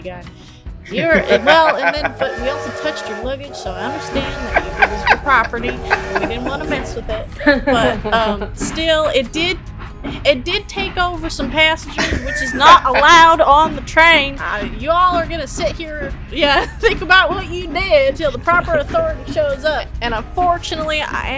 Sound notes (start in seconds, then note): 0.2 laughter; 12.0 laughter